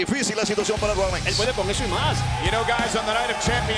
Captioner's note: speaking in Spanish